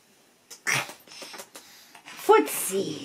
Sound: kisses

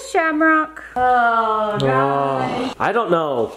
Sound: groans

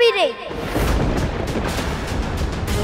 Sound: thundering

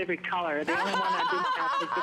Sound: laughter

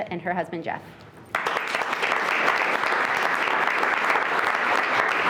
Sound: everyone clapping

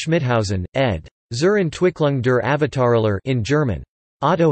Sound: in German

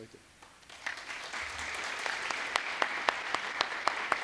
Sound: audience applauds

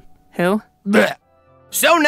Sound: Heiter groans

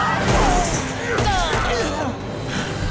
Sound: grunting

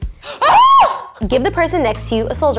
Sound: screams

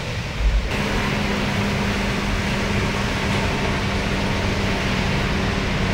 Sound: machinery whirring

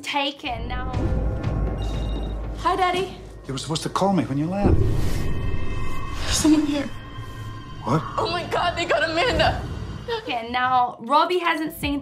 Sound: 'Taken' Trailer Audio

